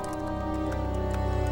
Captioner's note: typing